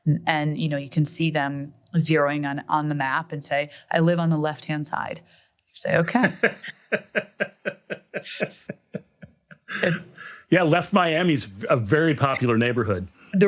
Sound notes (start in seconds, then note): 6.1 laughs